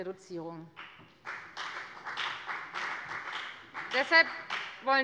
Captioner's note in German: Beifall bei der FDP